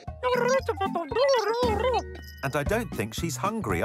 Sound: electronic chattering

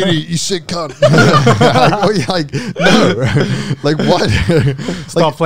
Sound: laughing

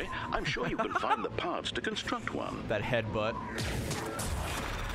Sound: laughs

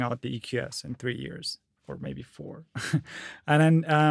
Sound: chuckles

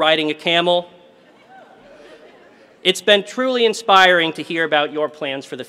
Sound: laugh

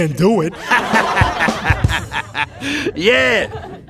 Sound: audience laughing

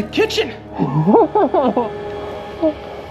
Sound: clown laughing

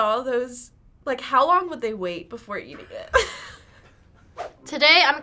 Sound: laughs

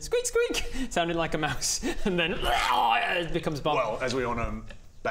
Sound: rwwrghhghggh!

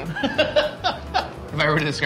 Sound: laughing

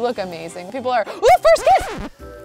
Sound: record screeching

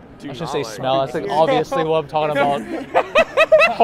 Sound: laughs

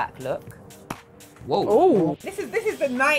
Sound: gel jar cap pops

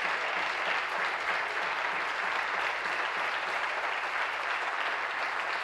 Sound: applause

